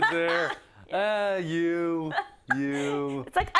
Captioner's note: laugh